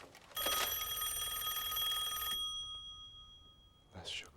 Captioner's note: rings